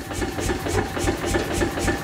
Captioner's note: rattling